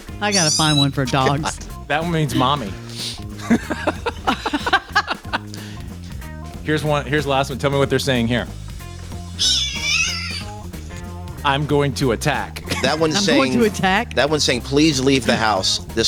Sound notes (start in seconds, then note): 0.0 group laughs; 3.3 group laughs; 9.3 cat meows